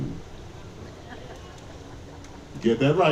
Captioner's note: audience laughing